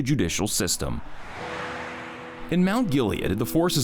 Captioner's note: air whooshing; calm music